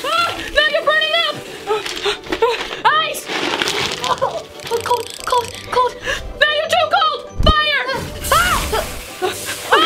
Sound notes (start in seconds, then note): 1.9 gasping; 3.6 ice clattering; 8.0 screams